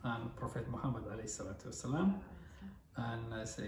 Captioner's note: "Peace Be Upon Him" in foreign language